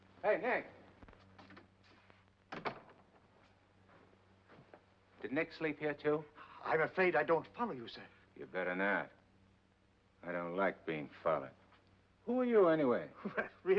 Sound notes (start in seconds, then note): 2.5 door closes